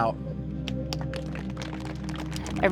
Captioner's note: audience applauds